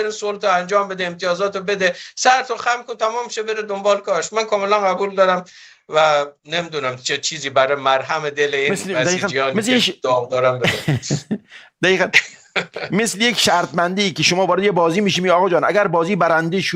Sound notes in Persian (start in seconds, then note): 10.6 خنده